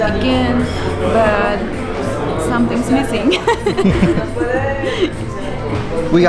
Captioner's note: laughs